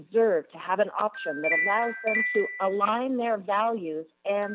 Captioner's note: chime